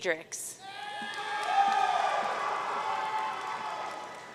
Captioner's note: audience cheering